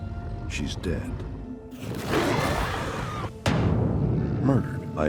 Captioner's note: growling, screaming